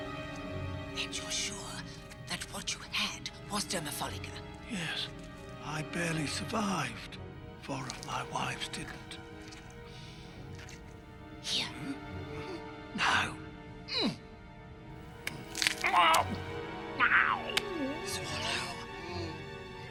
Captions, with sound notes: And you're sure that what you had was dermapholica? Yes. I barely survived. Four of my wives didn't. Here. No! Mm! [groaning] -Swallow. -[Rygel gags]